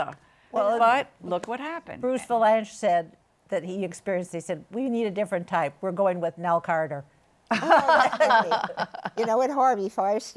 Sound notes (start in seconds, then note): 7.5 laughter